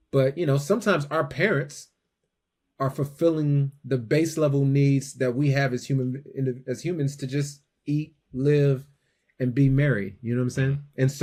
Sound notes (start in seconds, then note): none